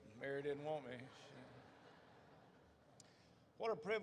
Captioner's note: audience laughs